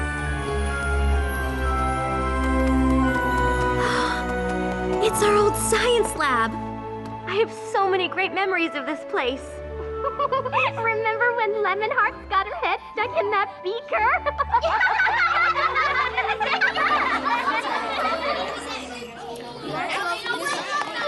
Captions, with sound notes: It's our old science lab! I have so many great memories of this place. Remember when Lemon Hearts got her head stuck in that beaker? [laughter] [chattering]